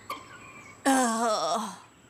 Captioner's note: sighing